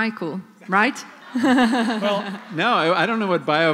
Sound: laughter

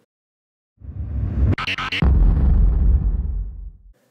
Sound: explosion sound effect

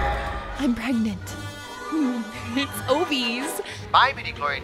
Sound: laughs

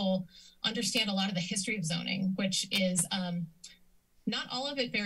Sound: clicks tongue

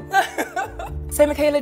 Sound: laughs loudly

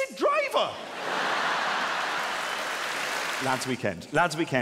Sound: audience laughing

